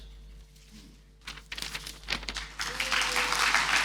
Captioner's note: paper rustling; audience applauding